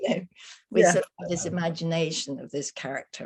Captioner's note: laughing